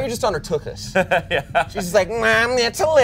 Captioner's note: laughs